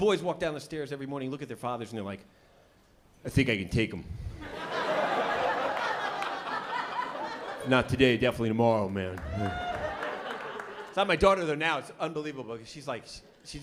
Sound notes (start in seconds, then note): 4.4 laughter